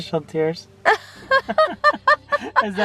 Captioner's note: both laugh